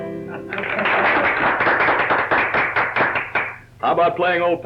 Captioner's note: crowd applauds